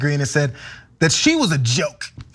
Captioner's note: laugh